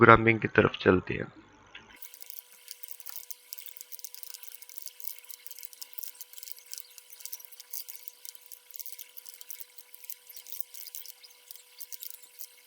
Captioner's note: typing